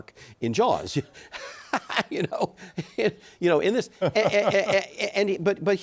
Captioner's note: laughs